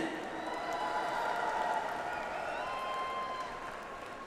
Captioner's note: audience applauds